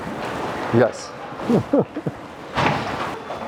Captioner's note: laughs